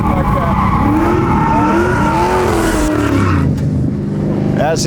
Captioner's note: car engine revving